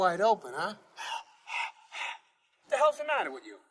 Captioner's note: panting